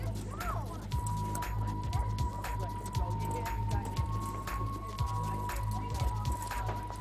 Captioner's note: overlapping chatter; dramatic music